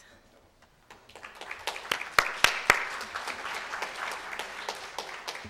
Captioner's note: audience applauding